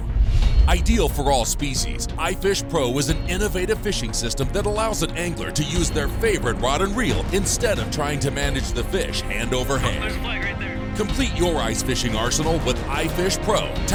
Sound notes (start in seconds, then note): 10.9 voiceover